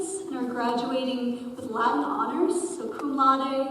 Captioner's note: none